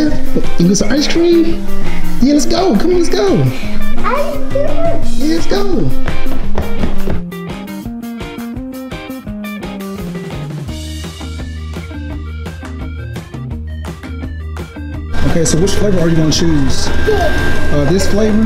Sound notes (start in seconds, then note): 1.8 upbeat music; 5.9 foot stomping; 7.2 upbeat music